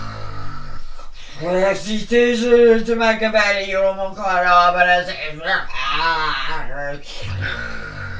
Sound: snores heavily; snarls; snores heavily

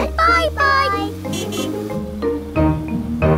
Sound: horn honking

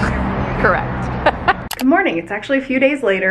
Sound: laughs

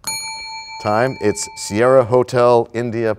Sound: bell rings, time expires

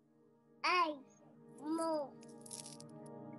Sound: baby babbling

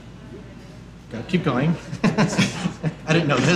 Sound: laughing

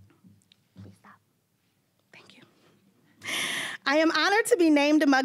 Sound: whispering

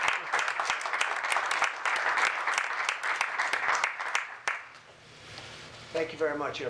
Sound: applause

